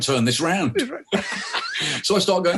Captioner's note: both laughing